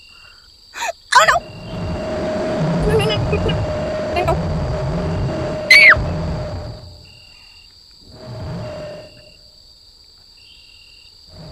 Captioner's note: tiny scream